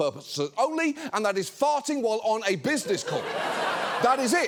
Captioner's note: audience laughs